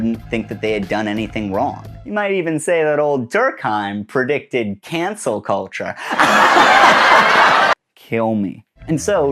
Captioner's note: laugh track